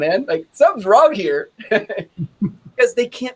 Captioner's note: chuckles